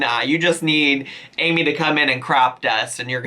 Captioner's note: none